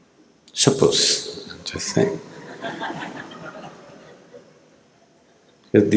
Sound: laughter

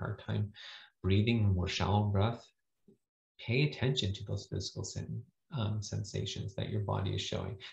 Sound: more shallow breath

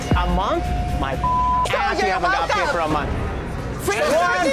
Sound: beep

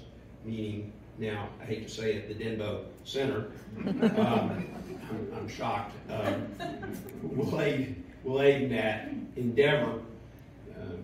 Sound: laughter

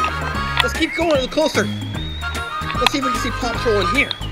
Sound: voiceover

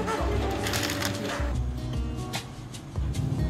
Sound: bag crunches

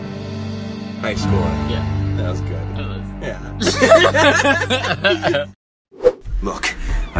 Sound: both laugh

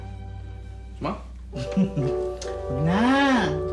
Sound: chuckles

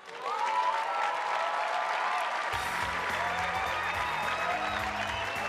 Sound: attendees applauding and cheering

